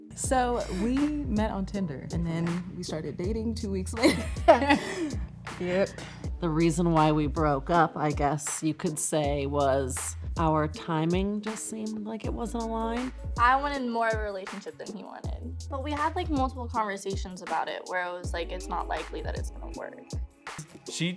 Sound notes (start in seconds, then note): 4.0 laughing